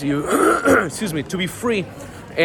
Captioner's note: clears throat